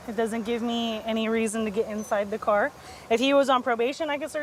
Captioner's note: none